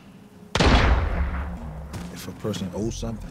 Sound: gun firing

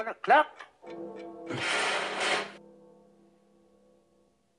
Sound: clock bell chimes

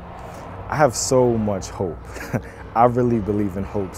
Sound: laughs

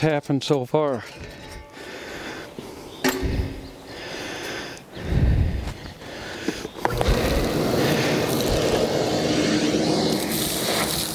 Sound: Sound of Shop Vac

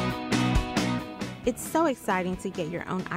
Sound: voiceover

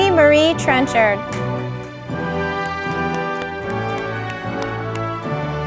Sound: audience applauding

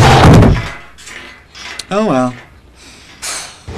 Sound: sighs

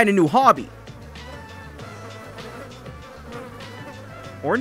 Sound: flies Swarming sound

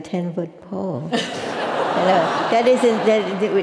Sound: laugh

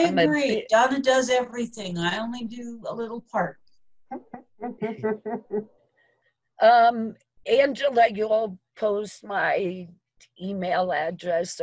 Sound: chuckling

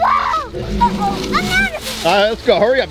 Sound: dinosaur roaring

